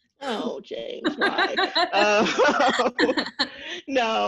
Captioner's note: laughs